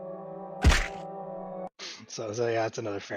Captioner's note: whack